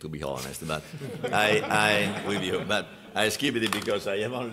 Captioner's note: laughter